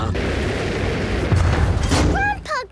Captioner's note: thuds